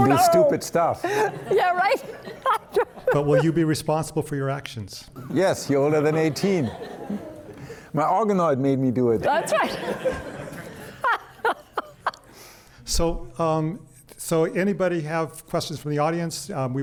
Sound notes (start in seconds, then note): 9.2 panelist laughing; 9.6 pat